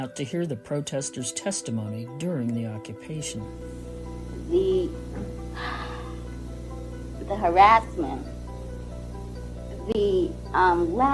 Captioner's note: deep sigh